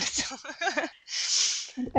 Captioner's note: laughs